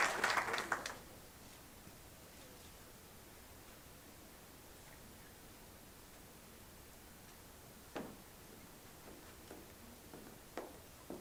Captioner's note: applause